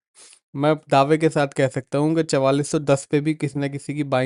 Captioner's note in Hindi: नाक से की जाने वाली आवाज़